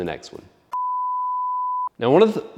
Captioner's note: beep